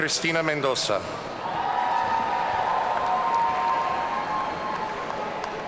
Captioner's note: audience cheering